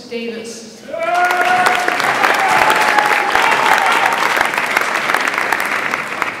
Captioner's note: audience applauds and cheers